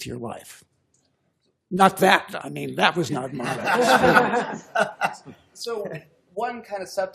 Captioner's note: laughter